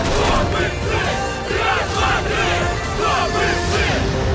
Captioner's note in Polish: skandują